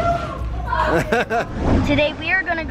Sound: laughing

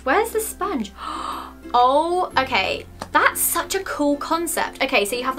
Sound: gasp

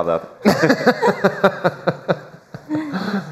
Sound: laughter

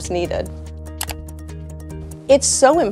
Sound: slide clicks

